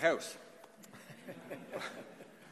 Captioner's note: laughter